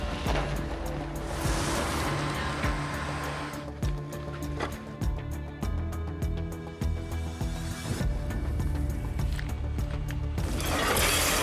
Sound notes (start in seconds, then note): 1.2 engine revving